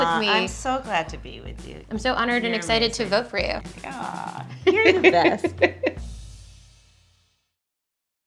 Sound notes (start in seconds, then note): 4.5 laughing; 5.7 mellow drum beat